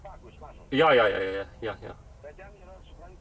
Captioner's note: on phone